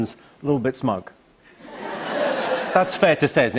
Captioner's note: laughter